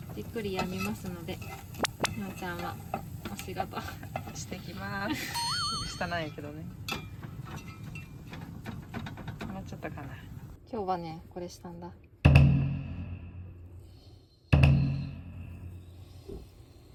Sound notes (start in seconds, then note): 5.0 laughs